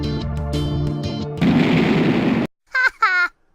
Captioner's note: explosion